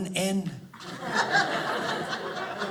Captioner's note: audience laughing